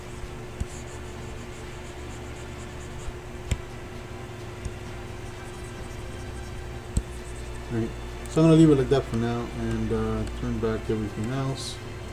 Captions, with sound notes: (computer mouse tapping) Right. So, I wanna leave that for now and turn back everything else.